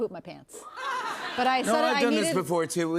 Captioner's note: laughter